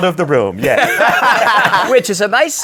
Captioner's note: laughter